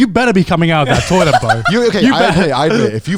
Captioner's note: laughs